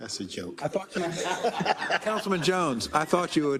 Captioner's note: laugh